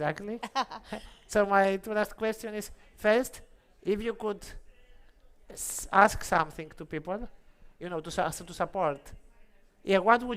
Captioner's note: laughs